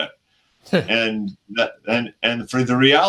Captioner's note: chuckles